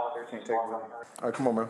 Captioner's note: radio chatter